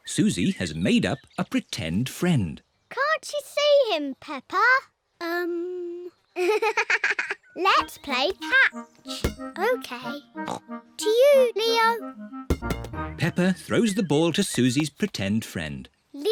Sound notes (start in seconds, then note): 6.4 giggles